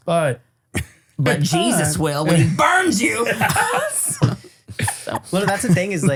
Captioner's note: laughs